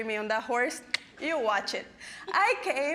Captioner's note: clicking tongue